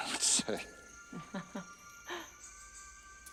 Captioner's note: laughs